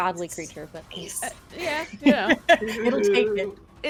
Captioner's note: laughs